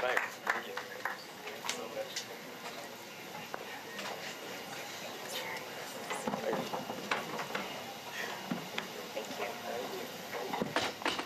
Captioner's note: applause